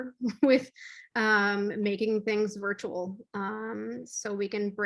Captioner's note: laughs